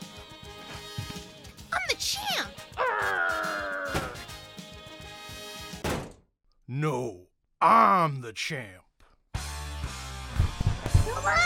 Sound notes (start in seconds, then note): 3.7 growls; 9.4 rock music